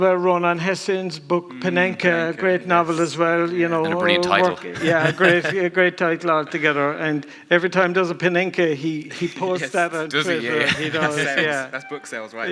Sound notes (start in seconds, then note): 3.7 laughs